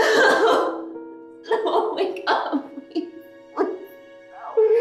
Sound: sobbing; sobbing

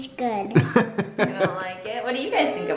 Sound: laughs

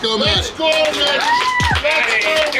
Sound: cheering and applauding

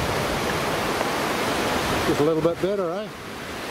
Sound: waves crashing

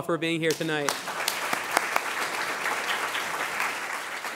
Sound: applause

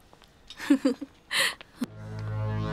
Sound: laughs

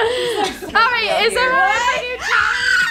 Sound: screams

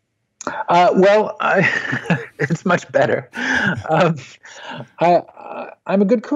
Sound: laughs

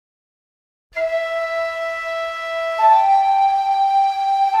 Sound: whistles blow

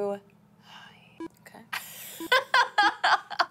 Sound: laughing

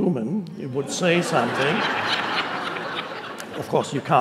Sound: audience laughing

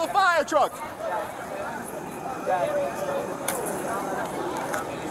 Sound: background talking

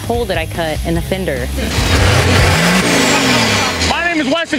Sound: engine revs

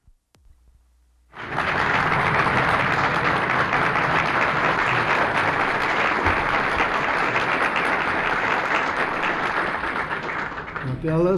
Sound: applause

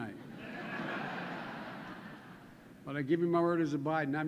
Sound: laughter

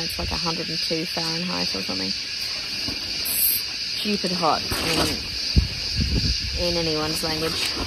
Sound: tent flaps loudly

